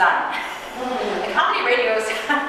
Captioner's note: audience chuckling